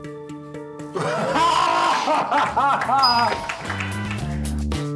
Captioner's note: sniggering; screams